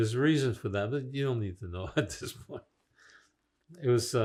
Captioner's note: laughing